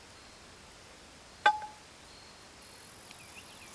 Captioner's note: ping, as flower hits metal bowl